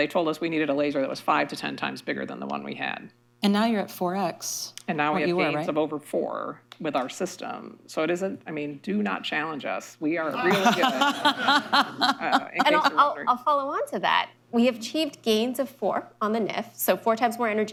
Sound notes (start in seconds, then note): 10.4 laughter